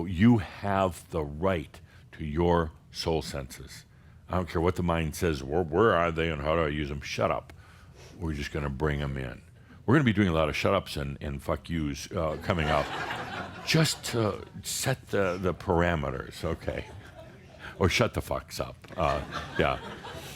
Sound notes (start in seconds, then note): 12.3 laughter; 19.3 more chuckles